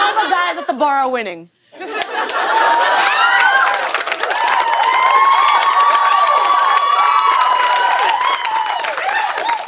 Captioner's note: cheers and applause